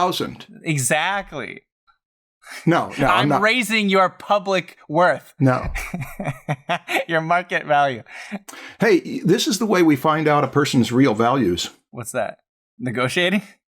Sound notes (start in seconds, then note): 5.6 laughter